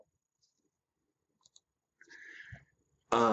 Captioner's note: clicks mouse